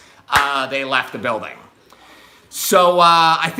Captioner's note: hands clap